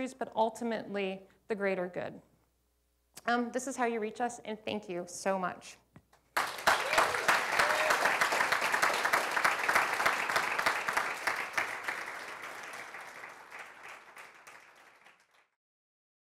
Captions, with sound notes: the greater good. This is how you reach us. And thank you so much. [APPLAUSE]